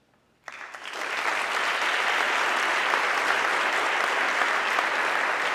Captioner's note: audience clapping